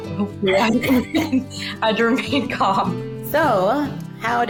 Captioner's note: both chuckle